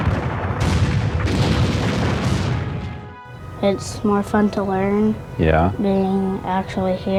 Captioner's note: gun shots